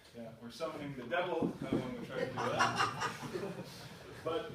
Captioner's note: laughter